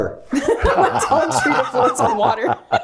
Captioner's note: laughing